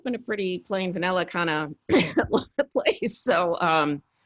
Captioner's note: laughs